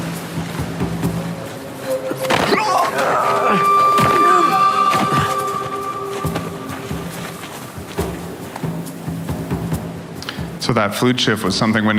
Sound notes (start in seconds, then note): 0.2 soft percussive music; 2.7 man yells painfully; 5.4 soft percussion